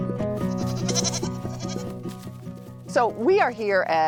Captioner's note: gentle upbeat music; goats bleating